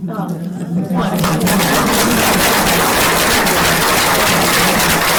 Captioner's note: applause